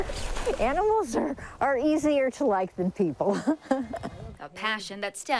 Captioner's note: chuckles